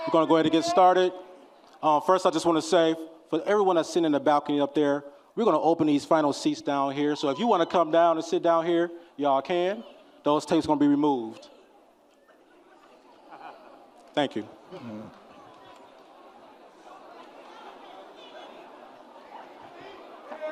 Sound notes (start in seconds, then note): 13.0 audience chattering and laughing; 15.3 audience chattering